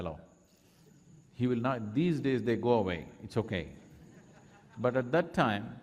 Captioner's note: laughter